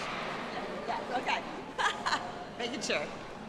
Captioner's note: laughing